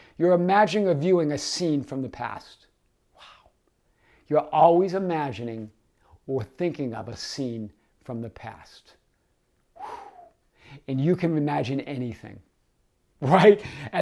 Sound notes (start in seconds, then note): 9.7 exhaling